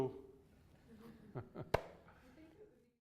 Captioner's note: laughs